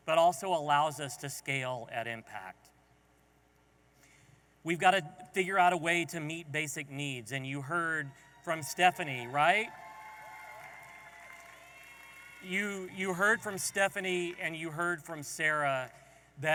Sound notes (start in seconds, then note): 10.0 audience applauding and cheering